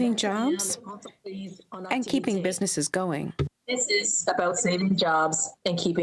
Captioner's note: speaking french